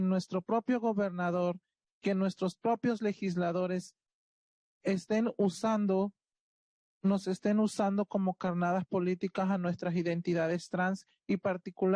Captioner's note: speaking Spanish